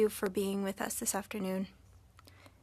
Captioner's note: speaking French